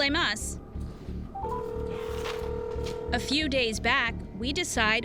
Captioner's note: phone ringing